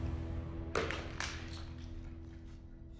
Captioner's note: thud